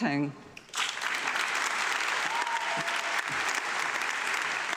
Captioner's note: audience clapping